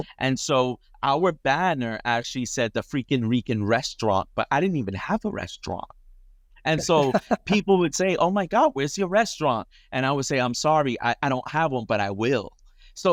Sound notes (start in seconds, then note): 6.8 laughing